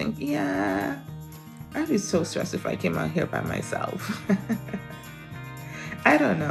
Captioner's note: chuckles